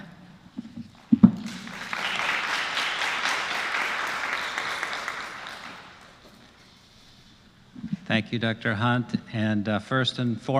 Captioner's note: applause